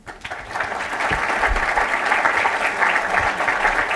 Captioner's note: applause